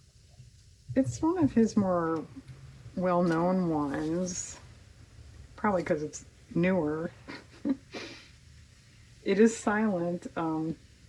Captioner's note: laughs